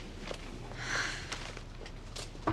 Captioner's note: sighs